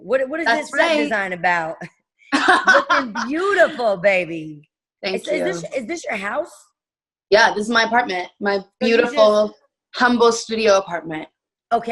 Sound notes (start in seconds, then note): 2.3 laughing